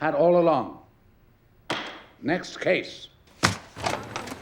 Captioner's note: gavel bangs